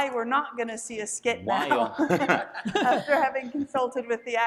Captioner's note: panelists laughing